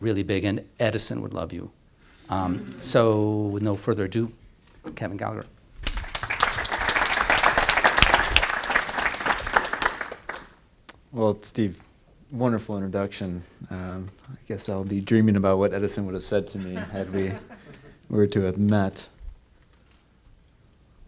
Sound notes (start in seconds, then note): 5.8 applause